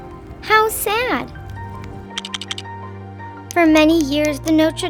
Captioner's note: poignant music; lego blocks clacking